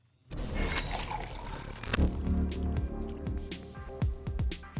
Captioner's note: bubbles popping; coffee pouring